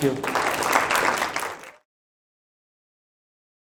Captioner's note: applause